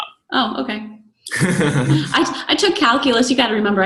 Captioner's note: laughs